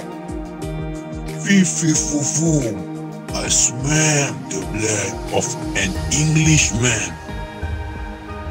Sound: shouting

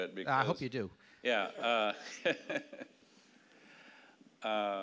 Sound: laughing

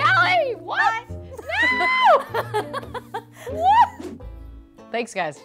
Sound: laughter

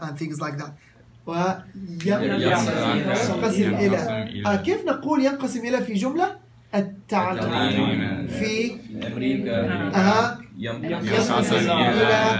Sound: Arabic

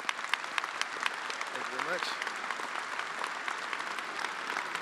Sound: attendees applauding

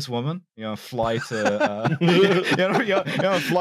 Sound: everyone laughing

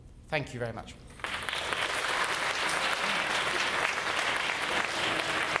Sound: audience claps

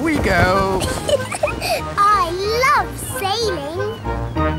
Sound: giggles

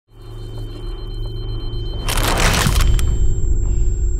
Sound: machines beeping

